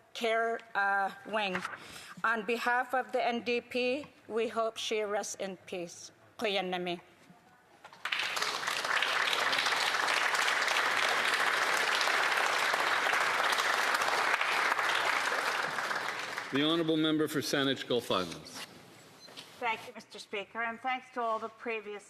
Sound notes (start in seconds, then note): 13.0 speaking indigenous language; 14.0 applause